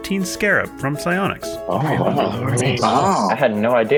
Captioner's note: murmuring in surprise